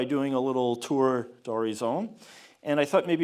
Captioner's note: speaking foreign language